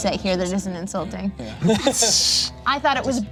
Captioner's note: laughs